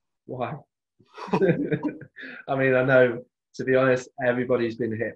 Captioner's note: laughs